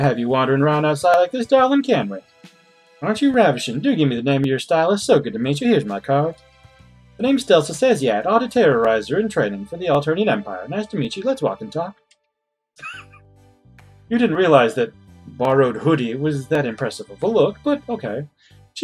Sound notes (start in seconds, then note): 12.8 laughs softly